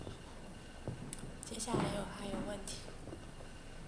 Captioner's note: Mandarin